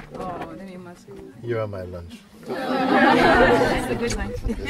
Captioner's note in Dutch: gelach